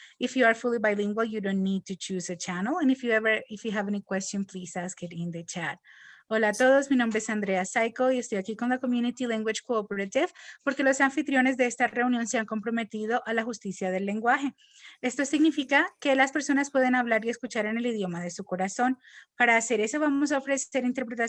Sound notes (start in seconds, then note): 6.0 speaking in Spanish